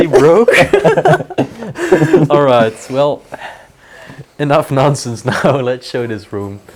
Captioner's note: laughing